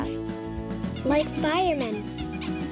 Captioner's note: squeaking